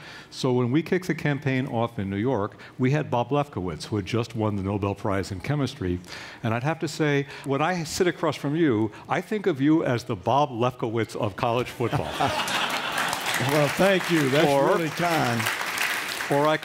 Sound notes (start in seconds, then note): 11.8 laughter; 12.2 applause